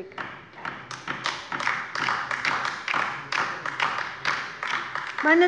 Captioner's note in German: Beifall bei der LINKEN